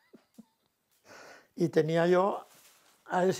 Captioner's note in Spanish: ríe